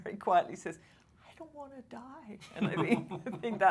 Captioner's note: laughing